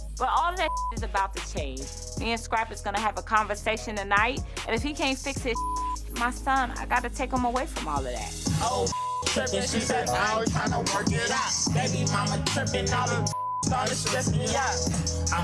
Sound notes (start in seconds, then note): 0.6 beep; 5.5 beep; 13.3 beep